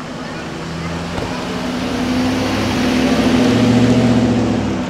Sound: engine running; crowd chattering; car trunk closing

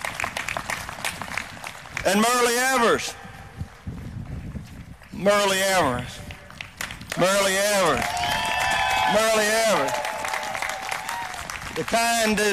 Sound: applause

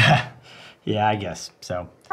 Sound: laughs

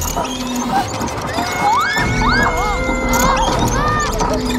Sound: children screaming

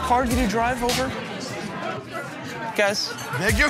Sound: chattering

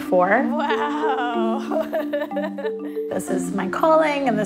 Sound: laughing

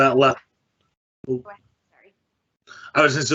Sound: audio cuts out

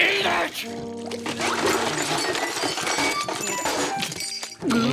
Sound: clanking

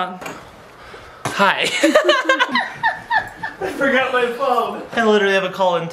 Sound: laughing

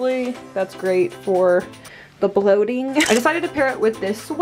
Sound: camera snaps

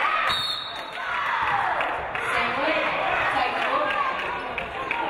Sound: referee blows whistle

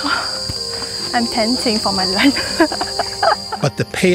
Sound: ethereal music; laughs

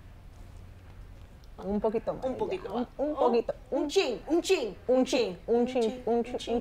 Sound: speaking Spanish

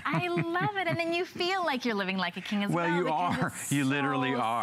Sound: laughter; laughter

